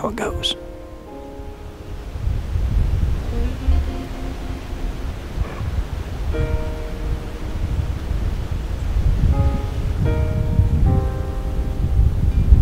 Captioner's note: wind and music